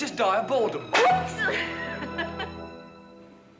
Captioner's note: laughing